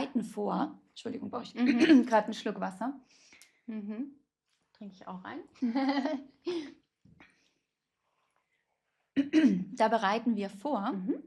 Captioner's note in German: räuspert sich